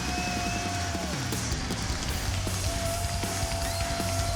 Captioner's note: crowd cheers